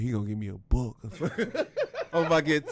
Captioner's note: laughing